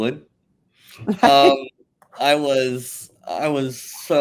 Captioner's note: laughs